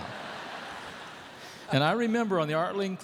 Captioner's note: laughter